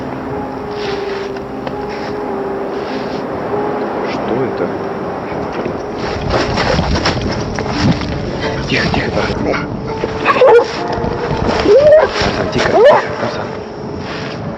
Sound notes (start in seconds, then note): 10.2 dog barking